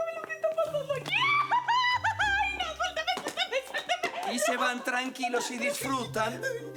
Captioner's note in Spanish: Gritos y exclamaciones